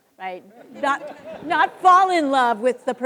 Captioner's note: students laughing